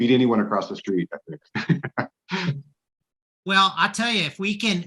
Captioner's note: everybody laughing